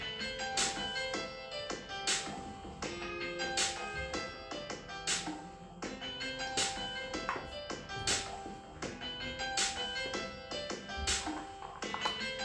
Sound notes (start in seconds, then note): none